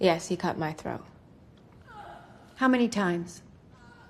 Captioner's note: gasping